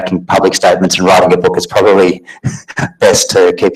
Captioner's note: laughs